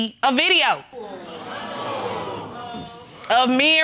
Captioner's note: crowd reaction